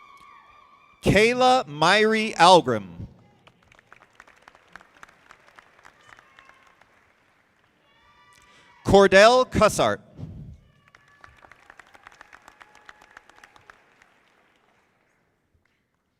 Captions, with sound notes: Kayla Myrie Algrim. (audience clapping) Cordell Cossairt. (audience clapping)